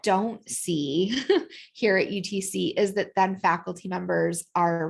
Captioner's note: laughter